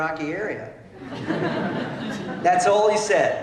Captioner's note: laughter